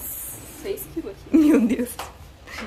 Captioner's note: laughs